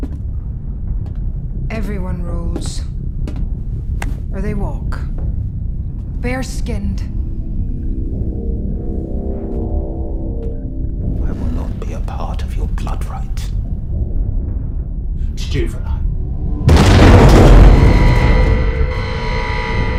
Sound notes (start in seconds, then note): 16.6 громкий грохот; 18.3 звенит будильник